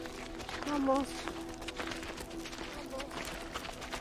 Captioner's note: speaking Spanish